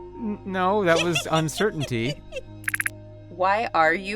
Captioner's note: giggles